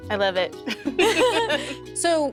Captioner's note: laughter